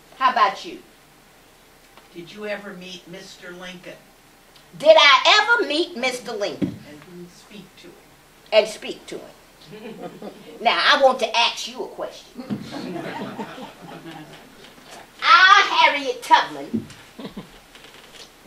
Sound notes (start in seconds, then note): 12.4 laughter